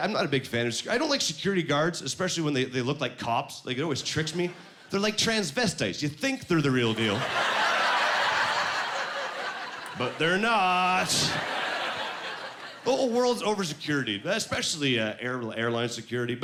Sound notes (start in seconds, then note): 7.0 laughing